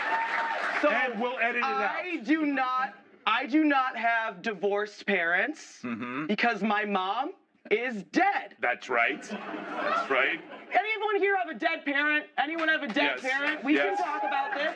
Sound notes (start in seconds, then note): 3.7 laughter